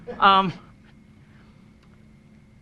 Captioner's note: laughing